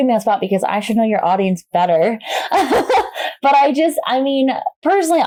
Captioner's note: laughs